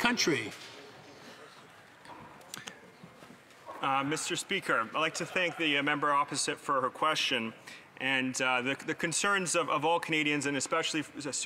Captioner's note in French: voix de l'interprète